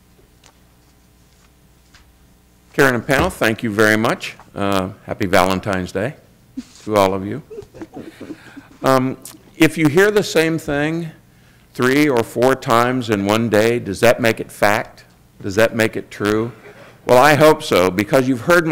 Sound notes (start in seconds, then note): 7.3 laughter